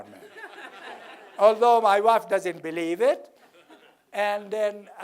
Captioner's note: laugh